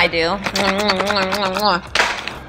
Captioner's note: kissing noises